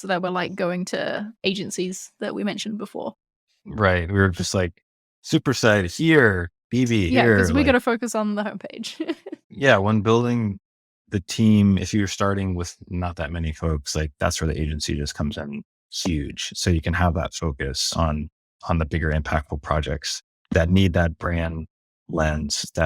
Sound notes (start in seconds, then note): 9.3 laughs